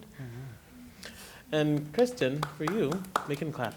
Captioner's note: claps